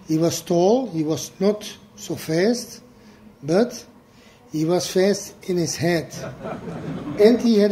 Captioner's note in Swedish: Skratt